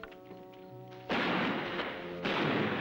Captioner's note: gunshots